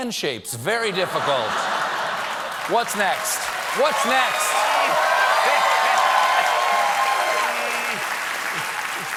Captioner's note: cheers and applause